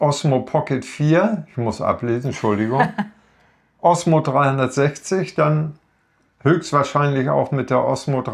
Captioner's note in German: gelächter